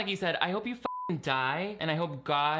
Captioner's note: beep